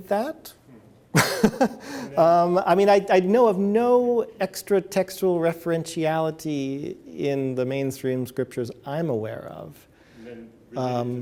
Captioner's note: chuckles